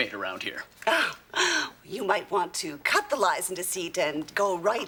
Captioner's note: exclaims